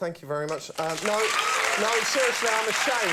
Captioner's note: audience cheers